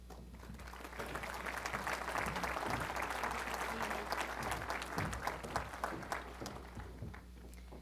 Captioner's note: applause